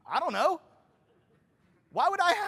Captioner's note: laughter